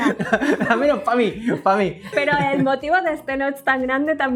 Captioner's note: laugh